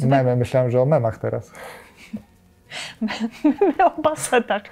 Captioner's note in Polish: śmiech